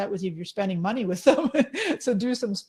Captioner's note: laughing